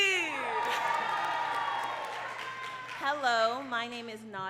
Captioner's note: crowd cheering and clapping